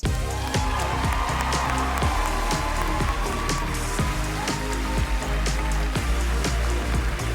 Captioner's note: audience cheering; cheerful music